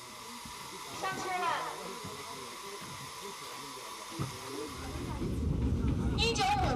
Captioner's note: train attendant speaking over radio